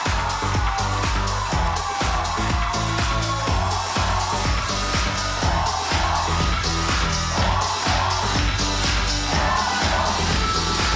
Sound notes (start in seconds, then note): 1.4 crowd cheering